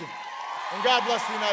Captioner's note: applause